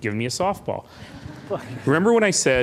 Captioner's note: laughing